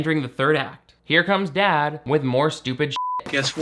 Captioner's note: beep